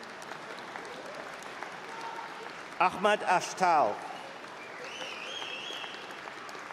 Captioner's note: applause